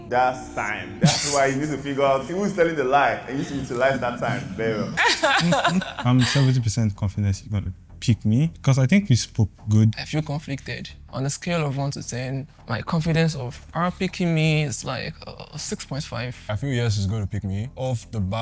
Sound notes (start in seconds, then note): 5.3 laughs